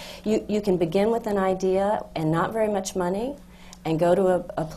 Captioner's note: none